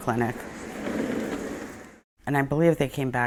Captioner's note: wheels rattling